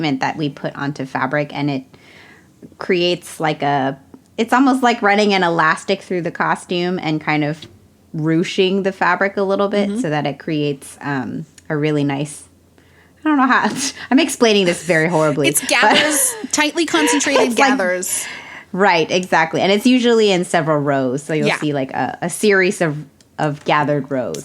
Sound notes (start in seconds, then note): 14.9 both laugh